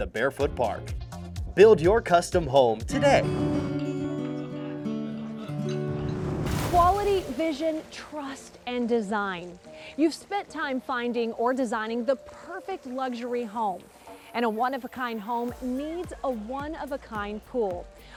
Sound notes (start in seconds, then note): 4.0 whoosh